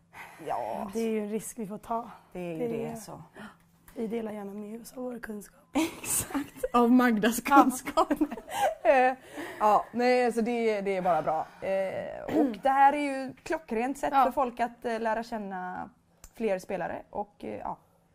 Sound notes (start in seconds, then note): 7.9 both laugh